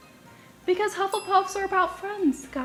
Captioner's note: dings